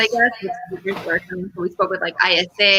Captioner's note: radio interference drowns out speaker